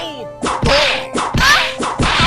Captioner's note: whip crack!